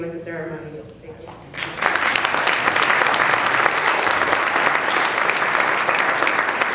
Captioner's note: applause